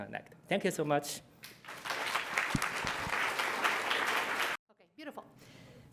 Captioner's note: applause